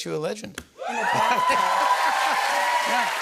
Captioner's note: cheers and applause